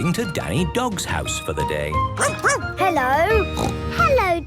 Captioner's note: barking; snorting